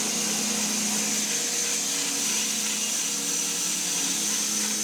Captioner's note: saw buzzing continues